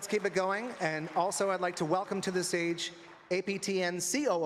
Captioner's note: applause